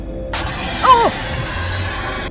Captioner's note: anglerfish roar